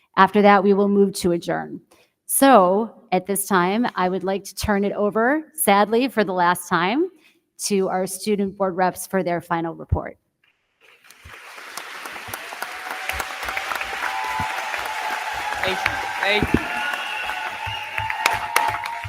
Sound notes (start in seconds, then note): 10.8 crowd clapping; 11.0 crowd cheering